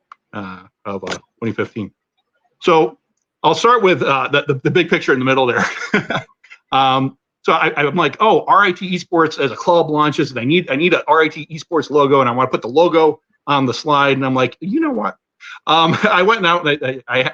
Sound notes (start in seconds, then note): 5.5 laughter